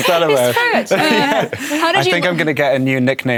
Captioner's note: overlapping chatter